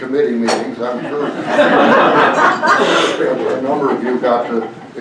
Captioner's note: laughter